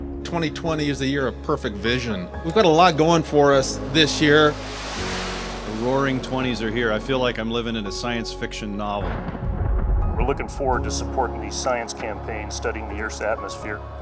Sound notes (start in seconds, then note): 3.4 aircraft taking off; 9.0 thunder